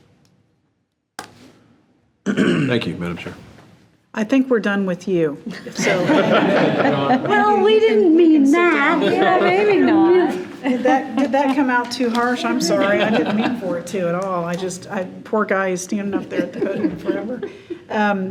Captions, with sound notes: - Thank you Madam Chair. - I think we're done with you. (laughing) - Well, we didn't mean that. - Yeah, maybe not. Did that come out too harsh? I'm sorry. I didn't mean for it too at all. I just, poor guy is standing up there at the podium forever.